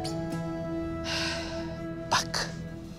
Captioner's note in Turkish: İç çekme sesi